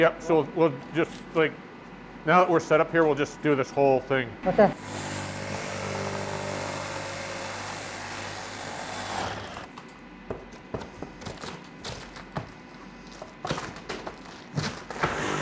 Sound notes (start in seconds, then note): 4.7 power tool buzzing; 11.4 materials rattling